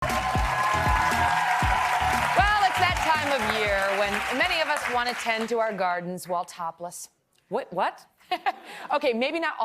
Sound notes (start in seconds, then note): 6.1 applause